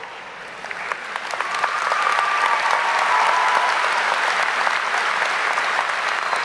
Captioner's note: audience applauding; audience cheering